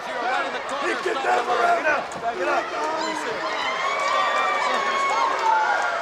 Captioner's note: presenter speaking faintly off mic